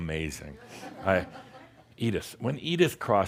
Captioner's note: some chuckles